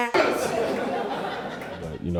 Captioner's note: honk